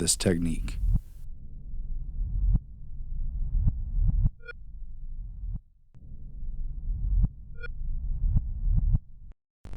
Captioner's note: heartbeat continues; static